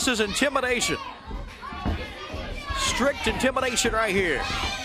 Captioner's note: crowd chatter